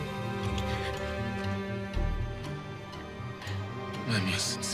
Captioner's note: dramatic music; Daphne gasping; lips smacking